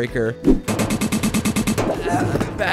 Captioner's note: fast thuds